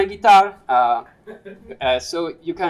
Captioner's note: laughter